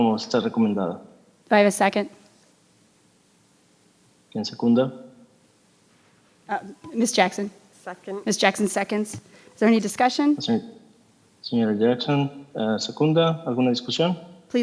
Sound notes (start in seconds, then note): 4.4 translator speaking in Spanish; 10.5 translator speaking in Spanish